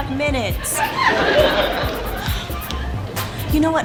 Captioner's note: audience laughs